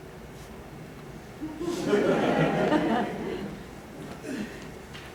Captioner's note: laughter